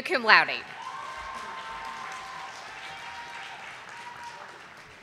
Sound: audience applauding

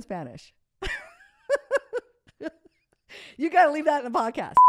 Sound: laughs

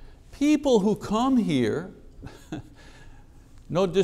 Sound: chuckles

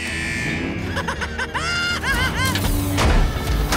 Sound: laughing

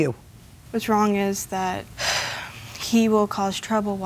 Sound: sighs

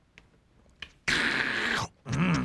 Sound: slurps

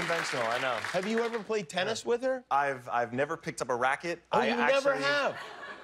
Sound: laughter

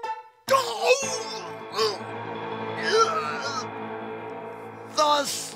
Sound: Pyramus moans in pain

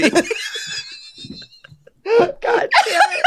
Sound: laughter

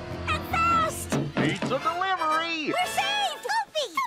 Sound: knocks on door

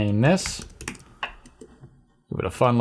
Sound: typing

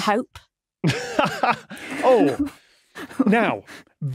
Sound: laughs

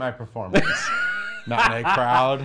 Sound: Erich laughs

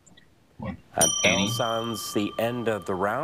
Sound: bell dings

